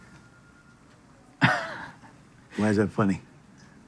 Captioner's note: laughs